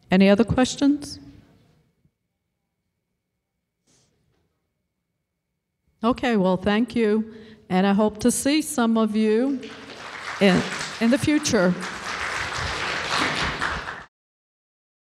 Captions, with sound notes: Any other questions? Okay, well thank you. And I hope to see some of you in the future. (applause)